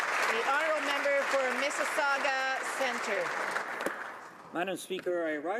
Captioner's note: applause